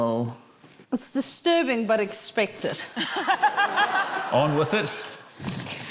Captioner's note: laughter